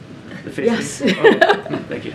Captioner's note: laughs